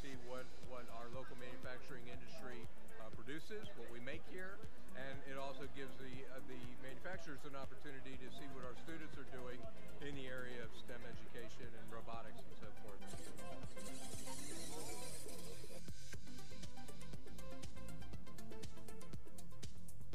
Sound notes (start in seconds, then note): 13.4 engine whirring